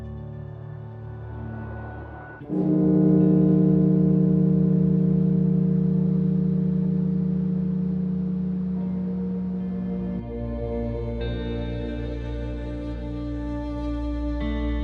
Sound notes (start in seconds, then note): 2.5 bell tolling; 8.9 somber music